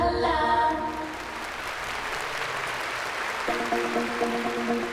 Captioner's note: cheering and applause